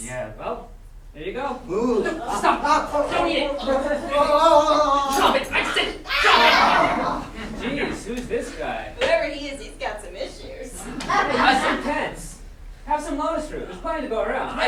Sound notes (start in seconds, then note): 4.1 sailors yelling with their mouths full; 5.4 sailors grumbling